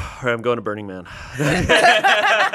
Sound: everyone laughs

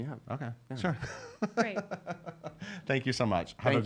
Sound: laughing

